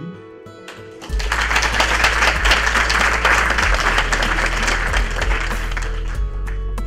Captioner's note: clapping